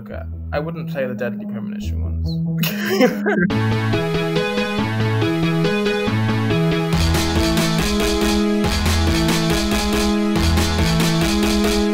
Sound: laughs

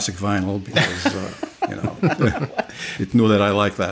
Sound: laughing

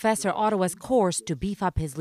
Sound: speaking indigenous language

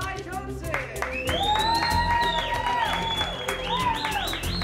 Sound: applause and cheering

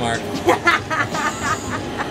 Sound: laughter

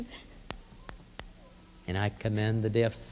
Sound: snapping fingers; snaps fingers

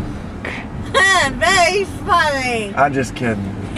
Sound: laughs

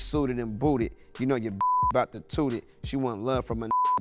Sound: beep

